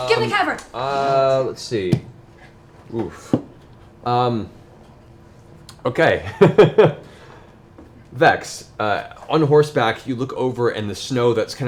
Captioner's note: laughs